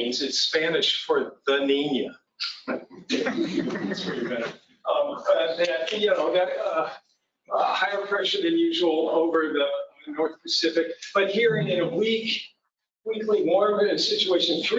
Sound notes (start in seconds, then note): 5.4 laughter